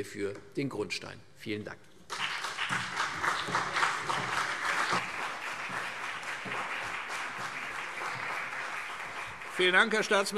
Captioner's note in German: Beifall CDU und BÜNDNIS 90/DIE GRÜNEN